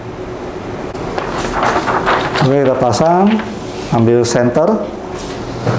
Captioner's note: PET film sound